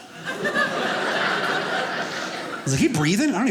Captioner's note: audience laughing